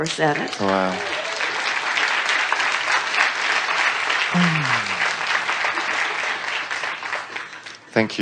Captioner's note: applause